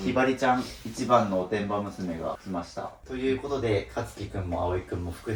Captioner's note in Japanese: 鼻息